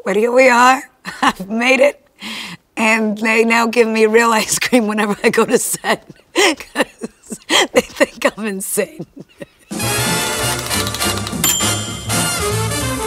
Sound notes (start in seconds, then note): 5.1 laughs; 9.7 upbeat jazzy music